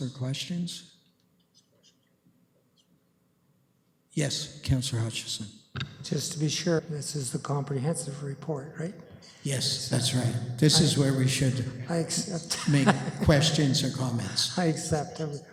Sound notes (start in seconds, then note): 12.0 laughing